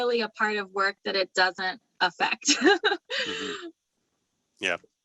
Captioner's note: laughs